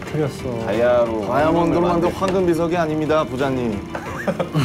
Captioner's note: rumbling